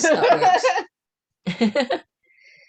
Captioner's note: laughter